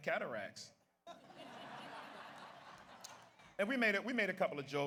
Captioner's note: audience laughs